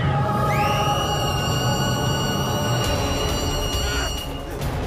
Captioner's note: creatures screeching; Persephone screaming